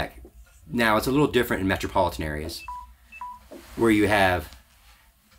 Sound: phone beeps

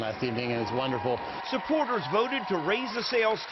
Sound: cheering

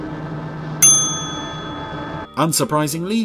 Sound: bell dings

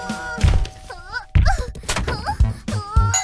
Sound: straining; continuing straining; frame thuds; thud; straining continues

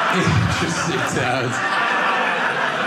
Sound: audience laughing

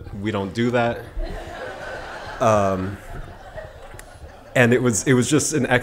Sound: laughing

